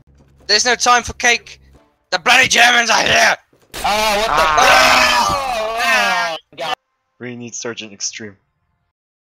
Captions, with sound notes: There's no time for cake! The Bloody Germans are here! [Explosion] [Screams of Confusion] We need Sargent Extreme!